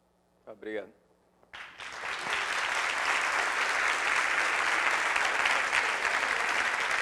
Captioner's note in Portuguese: Aplausos